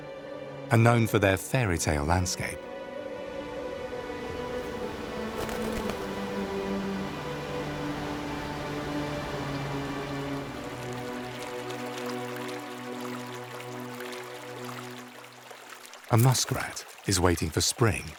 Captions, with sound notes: are known for their fairytale landscape. (gentle music) (water sloshes) A muskrat is waiting for spring